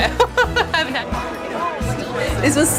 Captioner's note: laughs